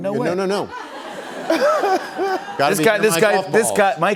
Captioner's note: laughter